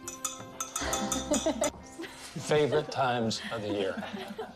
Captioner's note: Ashley y laughs